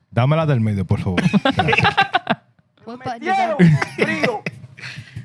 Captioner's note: speaking Spanish; laughter